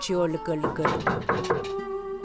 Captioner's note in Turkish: Kapı vurma sesi